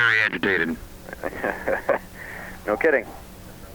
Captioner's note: laughs